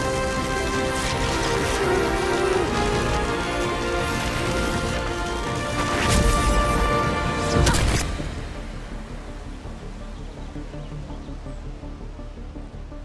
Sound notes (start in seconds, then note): 6.2 zapping; 10.1 dramatic music building